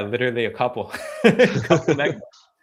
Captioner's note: both chuckle